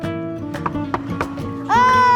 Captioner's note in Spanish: knock